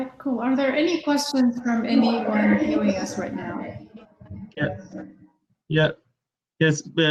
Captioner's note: technical feedback